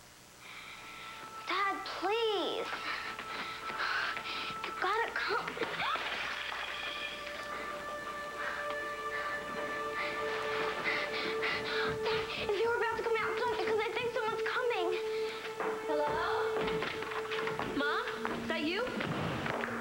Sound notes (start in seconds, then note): 7.3 starr gasps; 12.5 footsteps